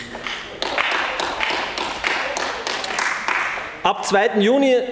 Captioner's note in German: Beifall bei den GRÜNEN